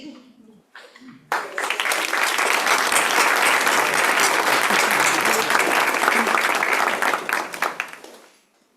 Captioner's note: applause